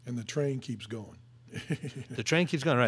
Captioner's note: laughing